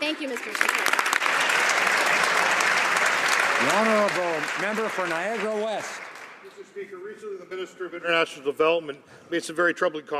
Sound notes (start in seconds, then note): 4.8 some Applause